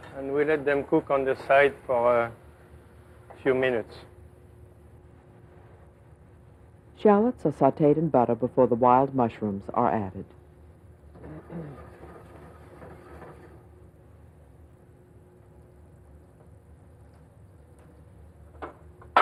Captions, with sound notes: Then we let them cook on the side for a few minutes. - [Voiceover] Shallots are sauteed in butter before the wild mushrooms are added.